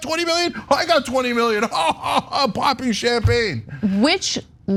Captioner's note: laugh